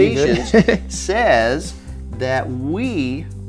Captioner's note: chuckles